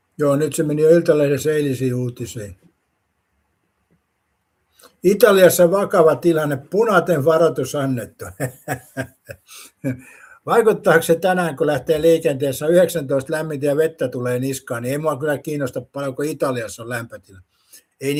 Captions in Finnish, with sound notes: Joo, nyt se meni jo Iltalehdessä eilisiin uutisiin. Italiassa vakava tilanne, puna varoitus annettu. [naurua] Vaikuttaako se tänään, kun lähtee liikenteessä 19 lämmintä ja vettä tulee niskaan, niin ei mua kyllä kiinnosta paljonko Italiassa on lämpötila. Ei